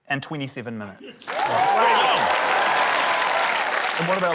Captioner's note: cheering, applause